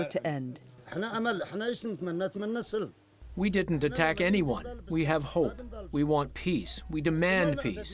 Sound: through translator

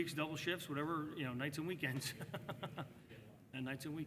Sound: laughs

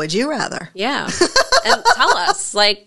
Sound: laughs

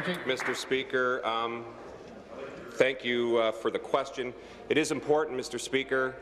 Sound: applause

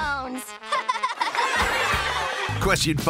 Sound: laughing

